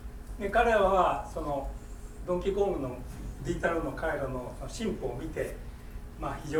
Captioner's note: speaking in foreign language